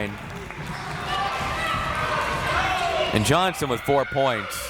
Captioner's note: crowd members shouting